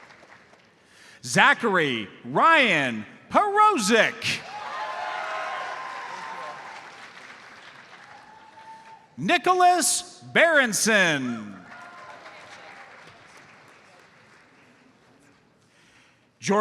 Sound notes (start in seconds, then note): 4.4 audience cheers and applauds; 11.6 audience applauds